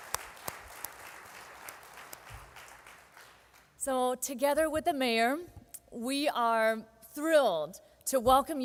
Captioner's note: applauding